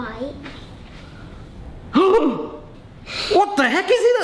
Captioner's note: gasps